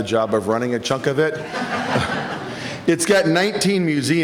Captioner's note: chuckling